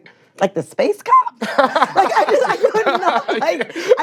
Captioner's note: laughs